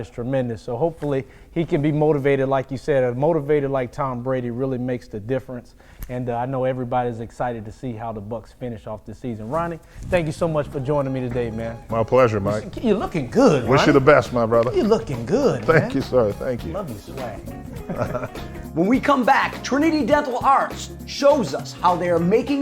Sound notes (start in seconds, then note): 17.8 laughing